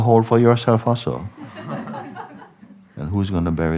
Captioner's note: laughter